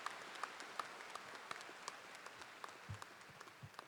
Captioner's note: applause